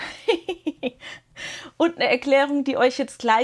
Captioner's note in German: gelächter; japst